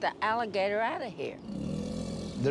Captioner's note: growling